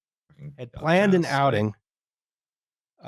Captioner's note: quietly